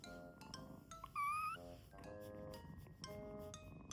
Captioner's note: chirp